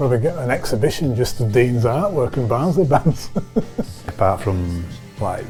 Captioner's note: laughs